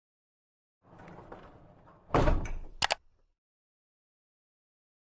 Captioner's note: bump and mouse click